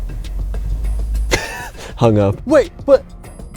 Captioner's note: laughs